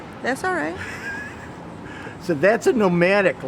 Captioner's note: laughing